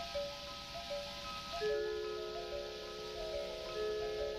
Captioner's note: television static